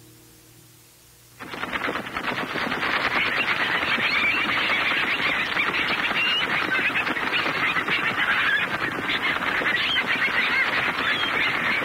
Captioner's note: birds fluttering